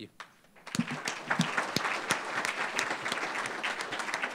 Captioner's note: applause